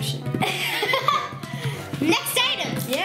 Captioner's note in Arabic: يضحك